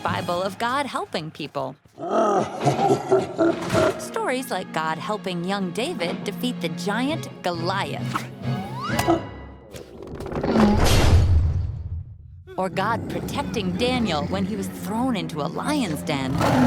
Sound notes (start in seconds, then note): 2.3 laughing; 8.9 thunk; 10.0 crash; 16.4 growling